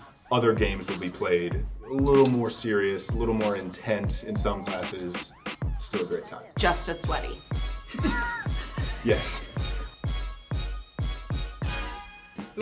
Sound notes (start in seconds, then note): 7.9 laughing; 9.6 rhythmic upbeat music ends